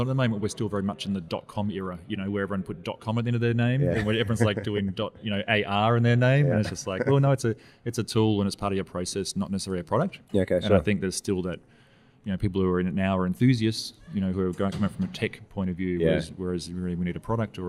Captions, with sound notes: and I know that we're still very much in the dot-com era, you know, where everyone would put ".com" at the end of their name. - Yeah (chuckling) - Where everyone's like doing ".AR" in their name and it's just like, well no, it's a tool and it's part of your process, not necessarily a product. And I think there's still that people are reading it now are enthusiasts, you know, who are goin' comin' from a tech point-of-view whereas you really we need a product